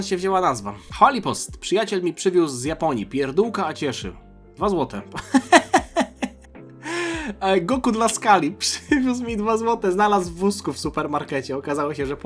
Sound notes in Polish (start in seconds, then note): 5.2 śmiech